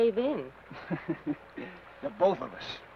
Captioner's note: Ben chuckles